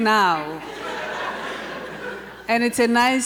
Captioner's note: audience laughter